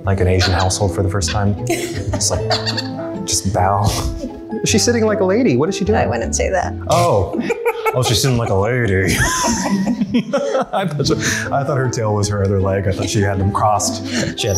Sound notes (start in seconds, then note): 1.6 laughs; 9.5 laughter